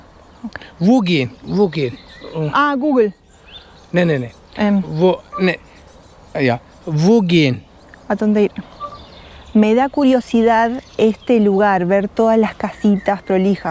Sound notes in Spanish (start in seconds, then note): 2.7 Habla el traductor en alemán